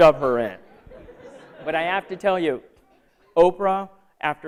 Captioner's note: laughter